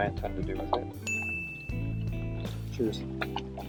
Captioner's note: bell dinging